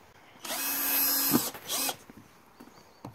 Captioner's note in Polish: Odgłos wkrętarki